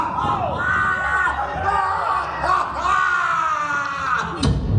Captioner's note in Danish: publikumsmedlemmer skriger